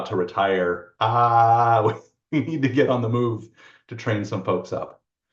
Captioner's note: laughs